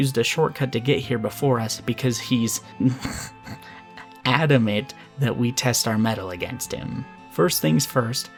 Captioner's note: giggles